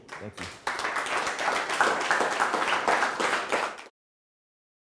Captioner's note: applause